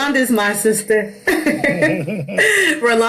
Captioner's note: laughing